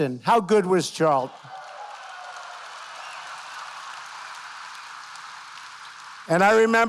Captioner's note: applause